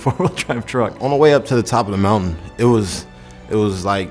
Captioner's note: voiceover